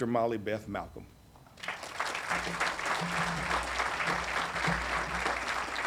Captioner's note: audience applauding